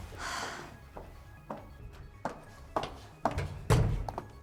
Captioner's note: Gigi sighs